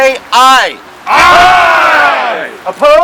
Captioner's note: crowd